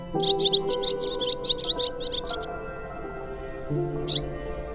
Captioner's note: bird tweeting